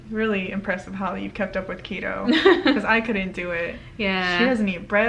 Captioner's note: laughs